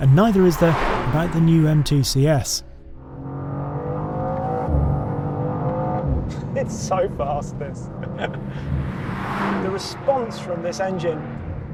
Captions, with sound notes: And neither is there about the new M2 CS. (vehicle revs) It's so fast this. (laughs) (vehicle revs) The response from this engine,